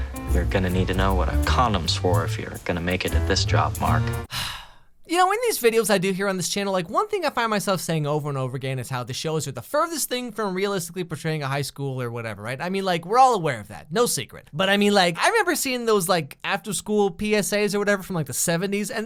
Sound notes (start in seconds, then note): 4.2 sigh